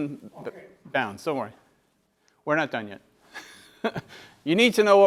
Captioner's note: laugh